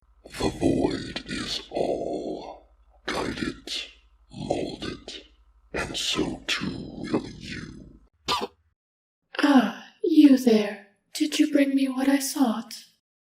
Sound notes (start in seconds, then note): 8.2 cough